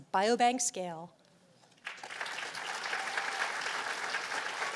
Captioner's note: applause